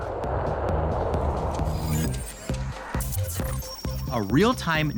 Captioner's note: beeping, static